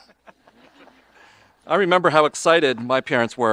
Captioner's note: audience laughing